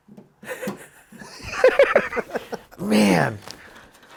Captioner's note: guys laugh